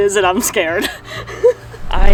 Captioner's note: laughs